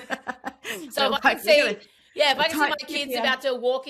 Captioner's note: laughs